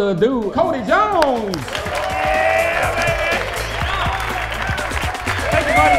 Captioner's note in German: applaus